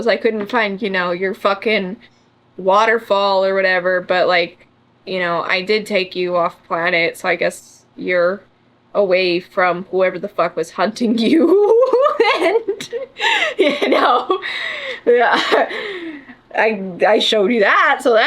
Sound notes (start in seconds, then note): 11.5 laughs